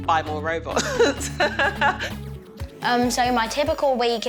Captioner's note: laughs